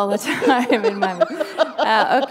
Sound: laughter

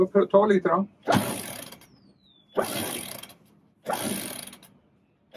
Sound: sound of winch several times

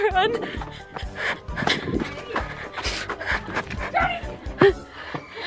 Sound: fast panting

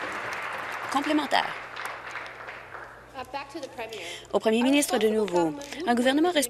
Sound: applause

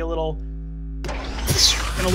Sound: makes explosion noise

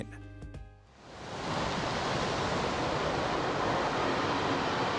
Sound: waves crashing

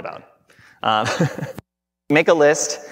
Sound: laughing

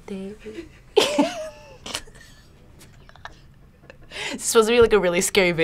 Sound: laughs

